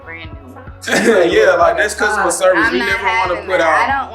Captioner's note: chuckles